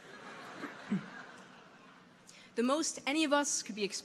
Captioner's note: audience laughing